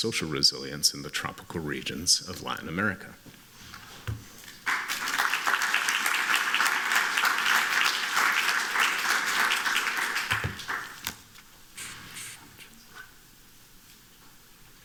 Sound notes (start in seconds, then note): 4.6 applause